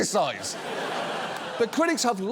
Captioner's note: studio audience laughs